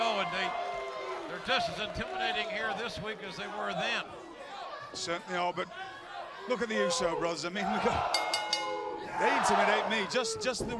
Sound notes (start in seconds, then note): 8.1 bell ringing